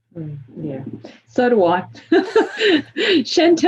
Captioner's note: laughs